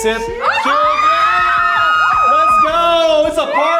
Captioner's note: members exclaiming